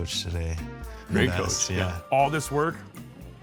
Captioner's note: giggles